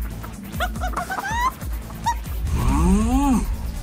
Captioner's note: clucking; enlightened grunt